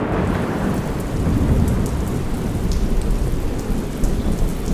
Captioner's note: rain pattering